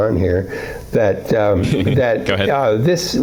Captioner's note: laughs